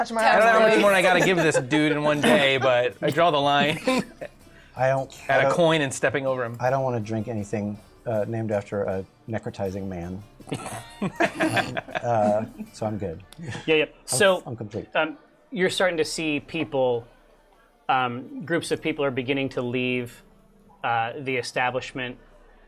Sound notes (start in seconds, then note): 10.6 laughter